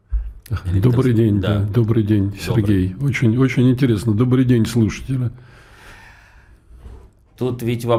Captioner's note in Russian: вздыхает